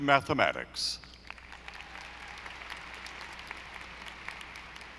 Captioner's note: audience applauding